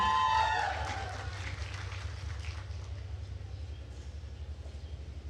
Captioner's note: attendees cheering and applauding